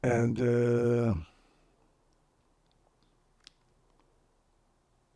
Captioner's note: pauses 12 seconds